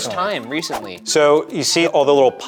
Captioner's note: graphic whooshing